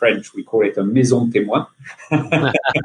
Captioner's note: laughing